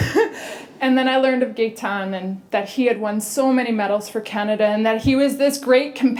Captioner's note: laughter